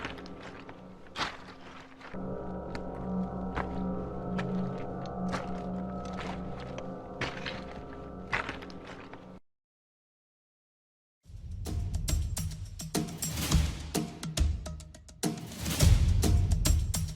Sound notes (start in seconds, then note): 3.9 suspenseful music continues; 4.3 pebbles crunching; 11.3 tense music